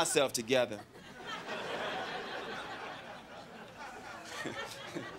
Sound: crowd laughing

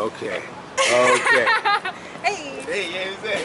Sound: laughing

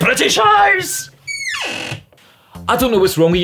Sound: door squeaks closed

